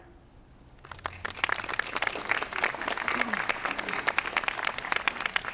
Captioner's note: audience applauding